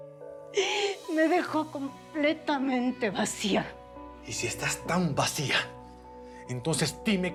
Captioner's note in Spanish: Sollozos